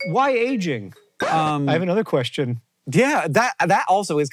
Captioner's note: record scratch